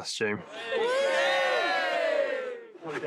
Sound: all cheering

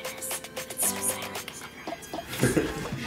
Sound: whispers; laughs

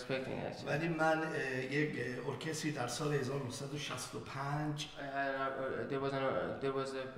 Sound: speaking in farsi

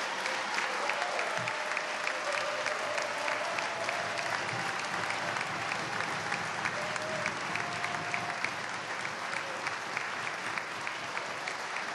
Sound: applause

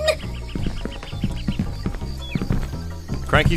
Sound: footsteps on wood

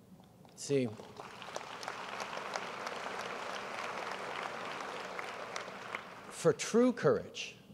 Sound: applause

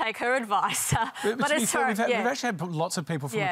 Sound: laughs

